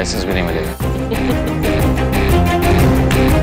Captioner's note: Zoya giggling; Claping